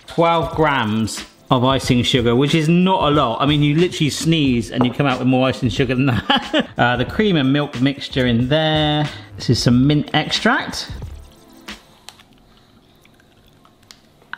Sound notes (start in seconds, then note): 6.7 laughs